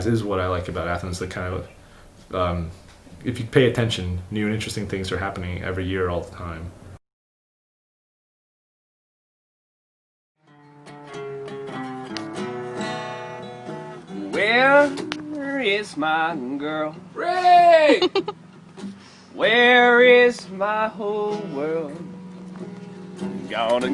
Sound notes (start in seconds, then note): 10.4 guitar playing; 17.2 yells; 17.8 giggles